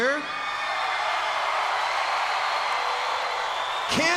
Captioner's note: crowd cheers